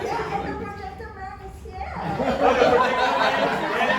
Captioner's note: audience laughs